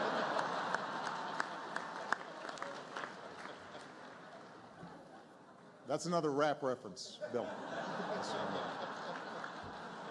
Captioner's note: laughter, applause; laughter